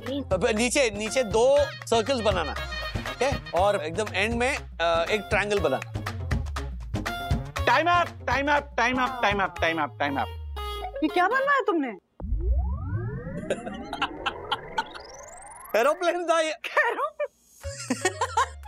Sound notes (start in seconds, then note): 12.0 laughing